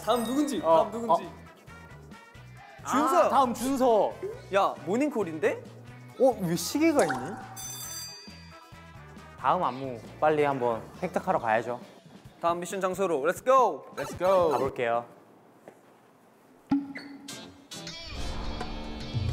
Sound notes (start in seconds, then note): 7.4 clock? Morning alarm?